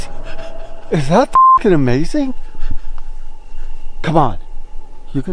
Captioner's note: beep